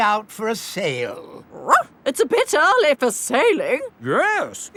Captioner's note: barks